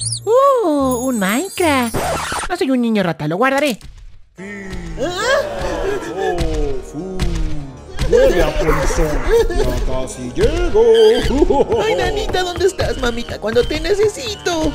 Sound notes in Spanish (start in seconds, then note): 0.0 sonido rata; 1.8 skratch; 3.7 pisadas